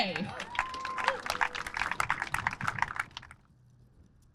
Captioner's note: applause